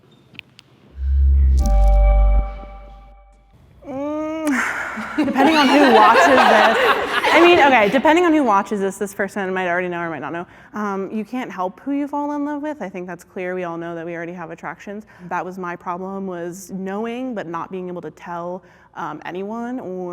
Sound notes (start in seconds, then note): 1.6 chiming; 3.8 humming thoughtfully; 6.6 contestants laughing